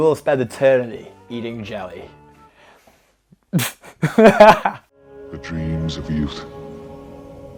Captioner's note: laughs